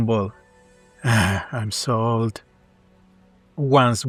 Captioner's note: sigh